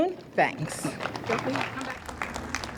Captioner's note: audience applauds